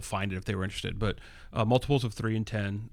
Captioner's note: uh